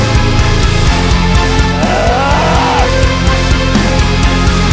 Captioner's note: growling